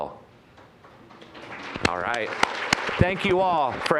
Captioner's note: applause